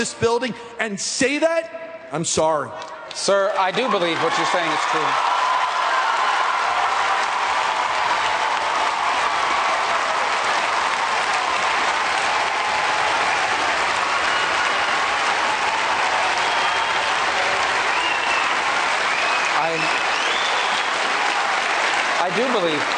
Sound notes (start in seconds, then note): 11.5 cheers and applause